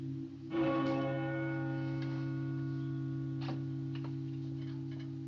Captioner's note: tolling Continues